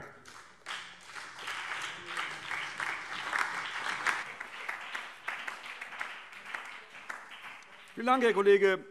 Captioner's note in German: Beifall BÜNDNIS 90/DIE GRÜNEN, vereinzelt CDU und DIE LINKE